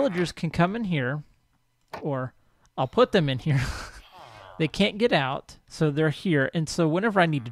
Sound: laughs; llama calls

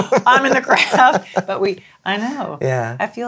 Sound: chuckles

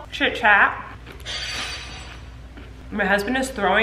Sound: silverware clatters

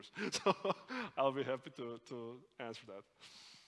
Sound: laughs

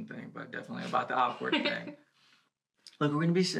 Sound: she laughs

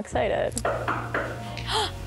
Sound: knocks; gasps

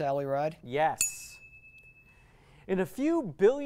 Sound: ding

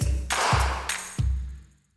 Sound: loud, echoing clap!

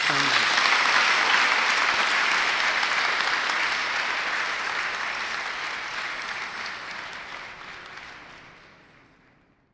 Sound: crowd applauds

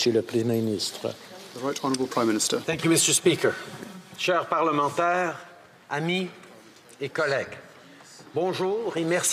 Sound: speaking French

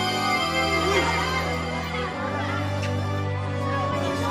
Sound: clamoring

